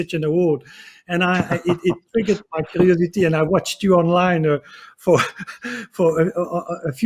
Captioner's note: laughing